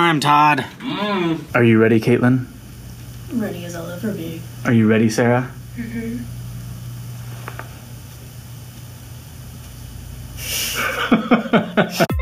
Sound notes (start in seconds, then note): 2.9 in a low voice; 10.4 laugh